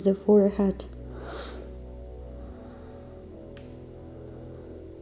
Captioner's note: breathing